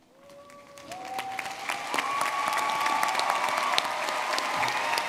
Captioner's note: audience clapping and cheering